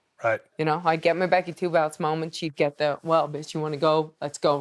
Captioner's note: none